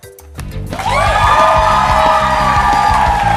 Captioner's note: cheers and applause